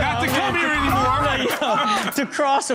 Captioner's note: laughing and chattering